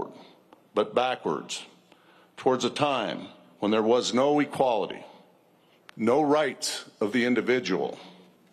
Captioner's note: none